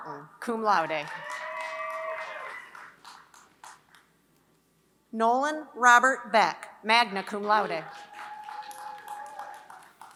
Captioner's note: applause